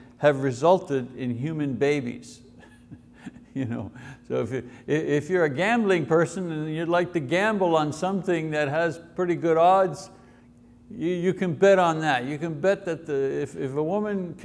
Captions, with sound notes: have resulted in human babies. (chuckles) So if you're a gambling person and you'd like to gamble on something that has pretty good odds, you can bet on that, You can bet that the, if a woman